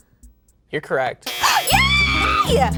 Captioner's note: intense music; buzzer beeping; joyful music